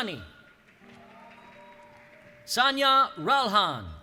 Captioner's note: cheering